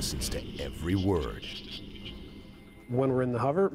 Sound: voiceover

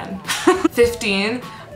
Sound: laughs

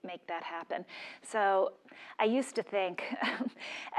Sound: laugh

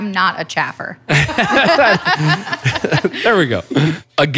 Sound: laughter

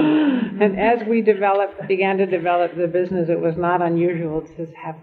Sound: laughter

